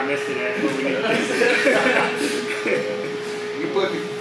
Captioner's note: laughs loudly